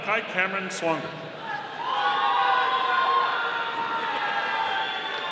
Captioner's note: audience cheering